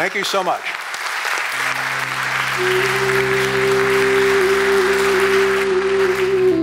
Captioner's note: applause